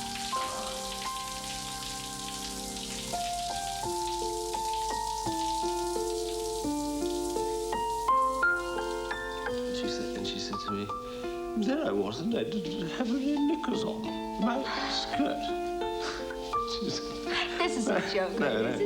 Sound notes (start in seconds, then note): 1.9 romantic piano music; 1.9 water trickling